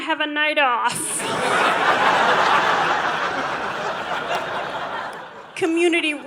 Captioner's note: audience laughing